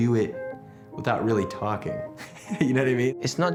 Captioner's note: laughs